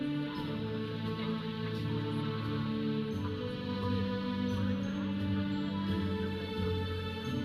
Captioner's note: audience chattering; processional music